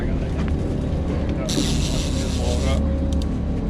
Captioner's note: reel cranking